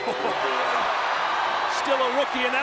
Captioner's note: chuckles; audience cheering